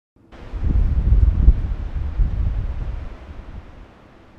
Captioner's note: wind humming